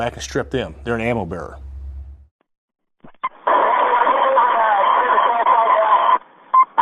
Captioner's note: soldiers speaking over radio calls